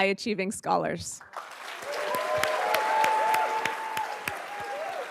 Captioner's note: everybody applauds